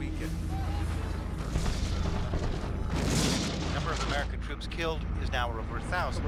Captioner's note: explosions